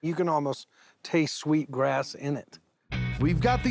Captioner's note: none